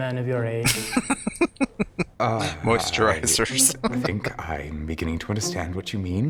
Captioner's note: laughing